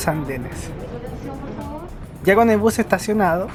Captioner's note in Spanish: voz ambiente